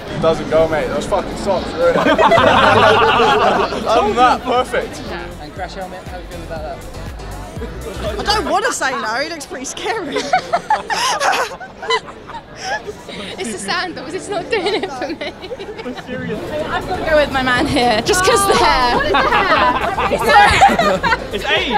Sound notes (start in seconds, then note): 10.0 both laugh